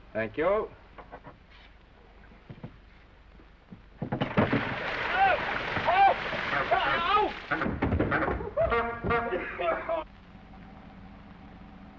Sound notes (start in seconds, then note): 4.1 water splashing; 4.2 Norman yelling; 6.8 Norman coughing; 6.8 horn honking